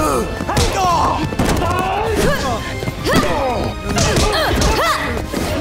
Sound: grunting

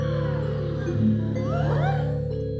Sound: deep breaths

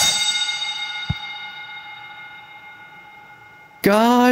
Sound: Fire Alarm Bell Stops Ringing In Code-3/Canadian Wildfires Bell Stops ringing

